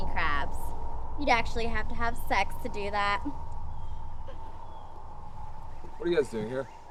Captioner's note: snickers